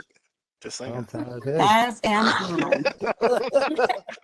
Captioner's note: group chattering; laughter